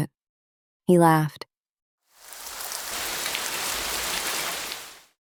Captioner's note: water Running